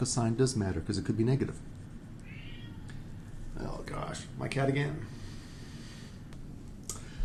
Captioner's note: meow